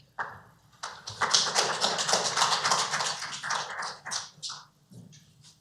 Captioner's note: applause